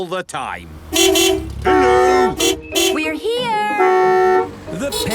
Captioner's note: beeping